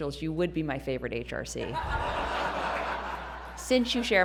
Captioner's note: laughter